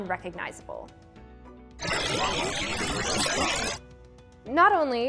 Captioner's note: static